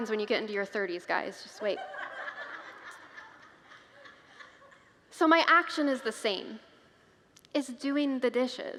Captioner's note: congregants laugh